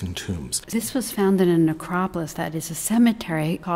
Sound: voiceover

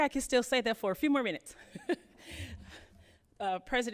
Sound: laughs

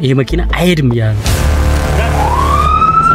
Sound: police car siren

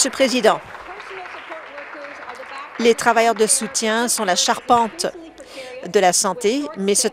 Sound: applause

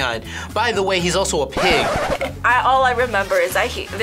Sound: record scratches

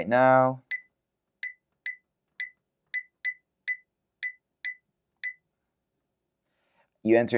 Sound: beeping

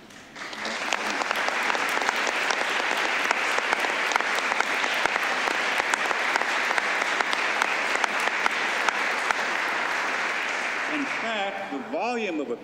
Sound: applause

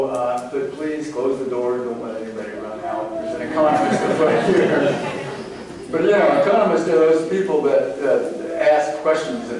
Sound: laughter

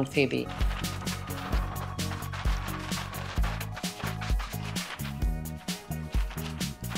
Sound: upbeat music; paper rustling

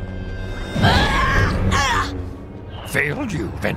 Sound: grunts; woosh

